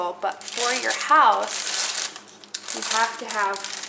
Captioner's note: package crackling